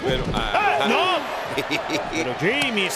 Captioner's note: laugh